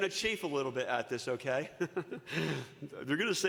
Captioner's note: chuckles